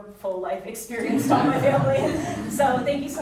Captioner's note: audience chuckling